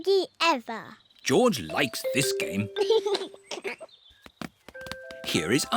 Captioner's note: giggles